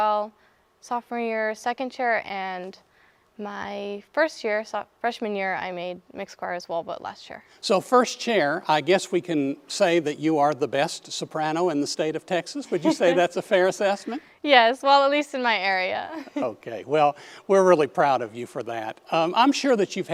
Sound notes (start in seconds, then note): 16.1 laughing